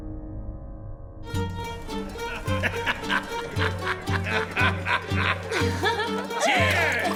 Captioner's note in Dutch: vrolijke muziek; mensen lachen